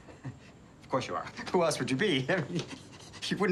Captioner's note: laughs awkwardly